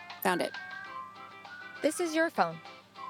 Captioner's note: phone ringing